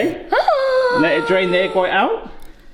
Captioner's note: gasps